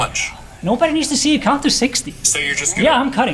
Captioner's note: slightly pissy